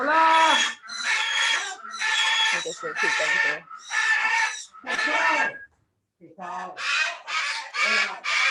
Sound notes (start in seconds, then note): 0.3 parrots chirping